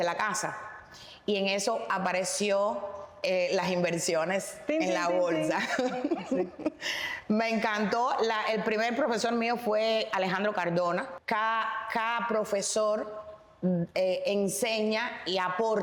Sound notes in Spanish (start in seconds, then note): 5.5 risas